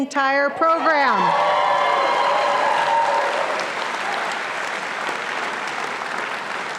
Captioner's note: audience applauding and cheering